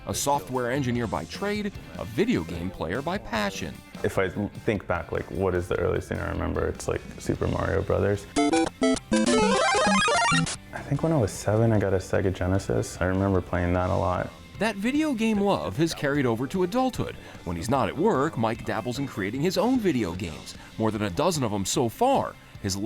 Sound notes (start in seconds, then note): 8.3 playful music; 8.9 graphics warbling